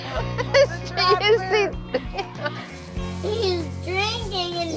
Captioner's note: all laughing